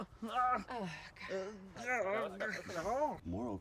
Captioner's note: Hubert groans; Ava sighs